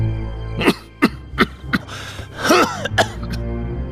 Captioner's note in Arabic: سعال